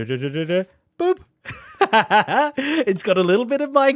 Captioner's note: laughs